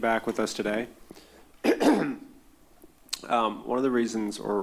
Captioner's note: clears throat